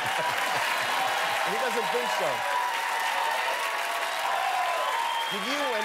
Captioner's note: laughter and applause